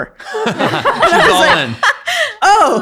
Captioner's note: everyone laughing